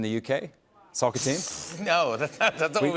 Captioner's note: light laughter